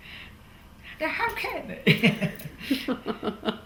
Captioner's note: laughs